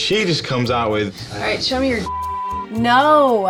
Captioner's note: beep